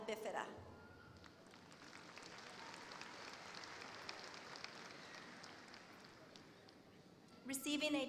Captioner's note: applause